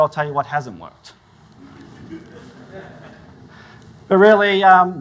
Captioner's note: audience laughs